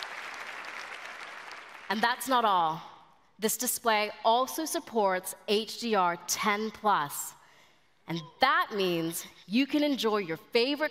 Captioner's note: applause